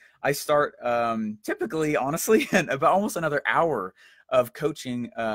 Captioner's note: chuckles